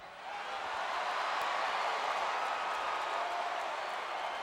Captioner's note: crowd cheering